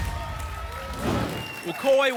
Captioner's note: applause and cheering; whoosh